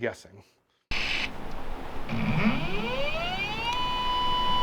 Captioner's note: equipment whirring